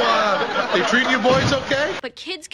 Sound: crash

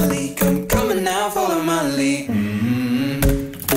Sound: mmmm

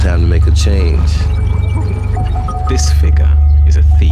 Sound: computer beeping

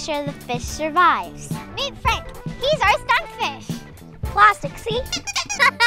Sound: laughter

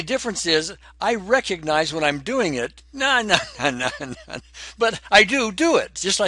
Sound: laughs

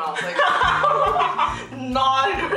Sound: laughter

